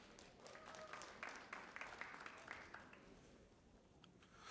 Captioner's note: audience applauding